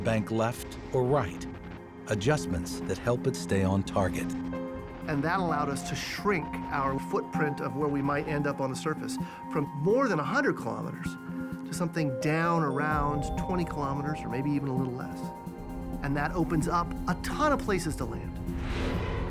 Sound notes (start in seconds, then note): none